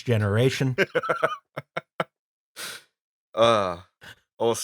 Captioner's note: laughing